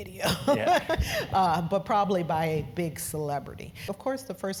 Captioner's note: laugh